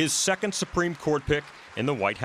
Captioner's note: applause